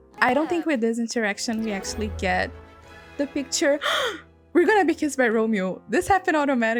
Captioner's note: gasp